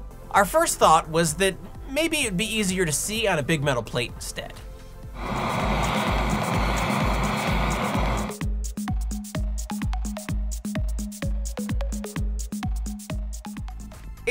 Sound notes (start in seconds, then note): 5.1 blow Torch Noises; 8.2 scientific Experiment Music